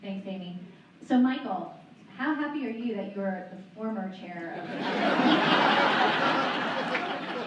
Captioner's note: laughter